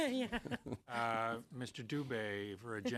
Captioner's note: laughter